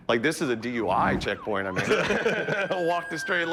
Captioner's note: laughs